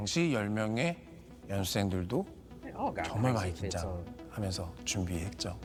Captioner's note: speaking Japanese